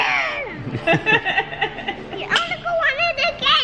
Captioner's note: laugh